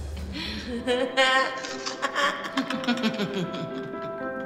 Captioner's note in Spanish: Risas